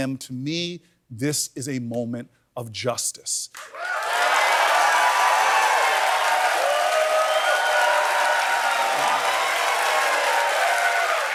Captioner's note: cheers and applause